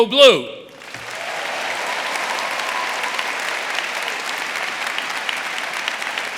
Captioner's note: audience applauding; audience cheering